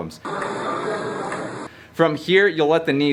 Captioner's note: people chattering